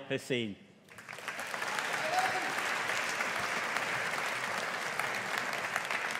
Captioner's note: audience applauding